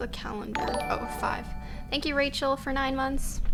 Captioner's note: notification tingling